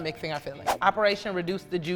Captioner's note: air whooshes